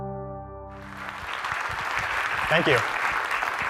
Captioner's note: applause